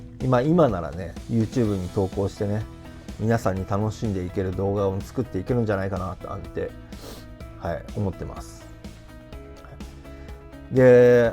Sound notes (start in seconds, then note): 5.9 breath